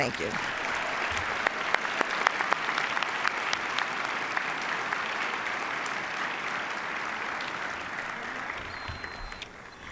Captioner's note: applause